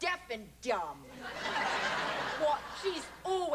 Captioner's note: laughter